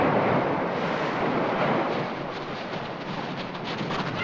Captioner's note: water crashing; waves & wind; wind howls